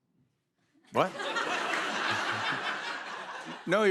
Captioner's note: laughter